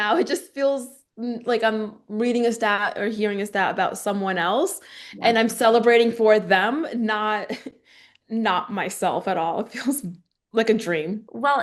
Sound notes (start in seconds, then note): 7.9 laughing